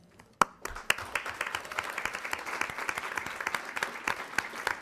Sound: attendants clapping

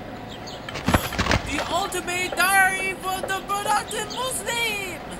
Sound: gasps

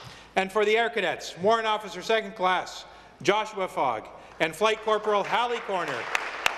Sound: applause

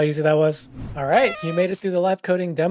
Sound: party horns blasting

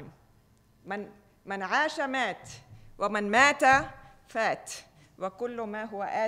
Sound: speaking foreign language

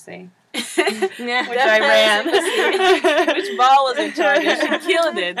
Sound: laugh

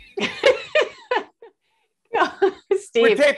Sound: laughing

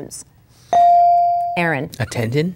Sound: bell dinging

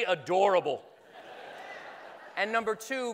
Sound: laughing

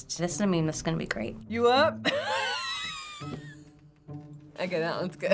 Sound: laughing

